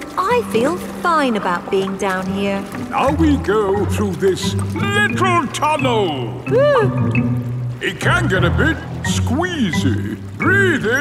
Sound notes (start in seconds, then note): 6.8 whimpers